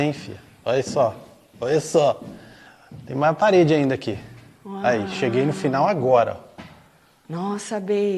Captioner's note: laughing